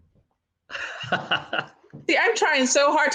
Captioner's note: laughing